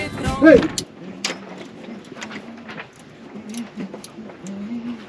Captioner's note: humming